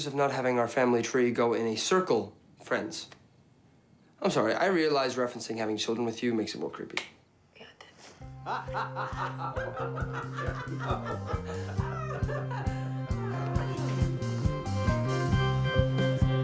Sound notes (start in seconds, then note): 8.4 Herb and Carol laughing